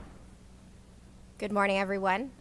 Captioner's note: gavel